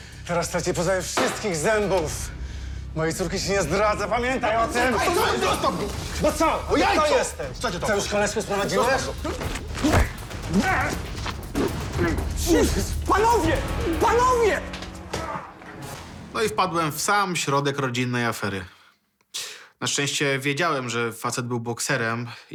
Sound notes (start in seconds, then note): 10.5 groan